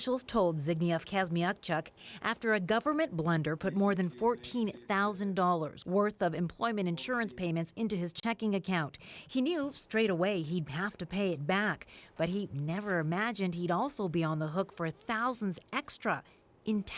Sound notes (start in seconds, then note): none